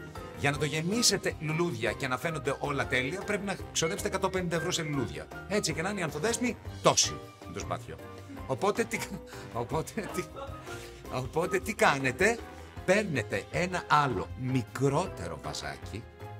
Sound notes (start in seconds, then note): 9.8 laughs